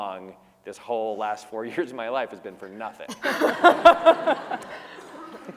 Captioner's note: laughter